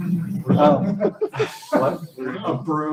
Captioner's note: laughter